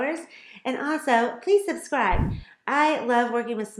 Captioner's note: button whooshes